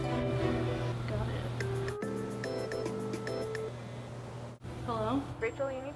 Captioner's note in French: sonnerie de téléphone